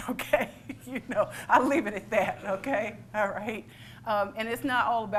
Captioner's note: laughs